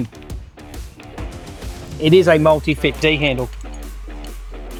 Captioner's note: clicking